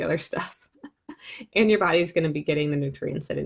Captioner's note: chuckling